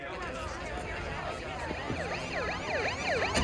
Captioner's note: all chattering; siren wailing